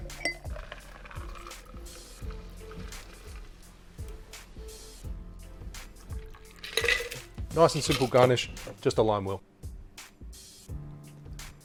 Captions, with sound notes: (liquid pouring) (ice clinks) Nice and simple garnish, just a lime wheel.